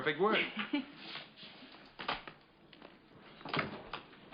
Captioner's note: door opens